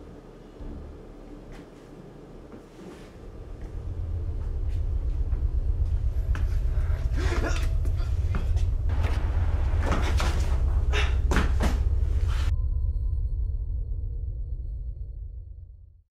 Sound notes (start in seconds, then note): 6.8 gasping and straining; 8.9 house door opens